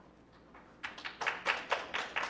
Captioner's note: clapping